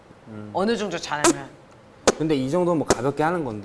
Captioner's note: poof